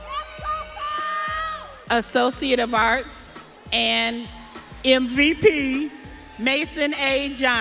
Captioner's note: audience cheering